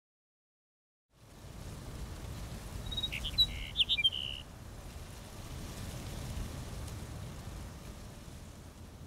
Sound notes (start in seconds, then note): 0.7 birds chirping